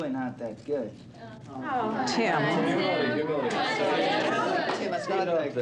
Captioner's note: crowd murmuring